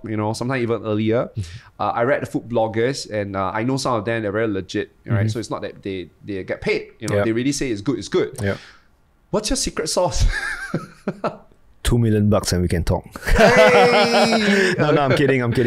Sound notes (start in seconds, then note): 10.2 laughs; 13.2 laughs